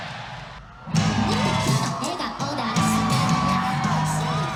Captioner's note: cheering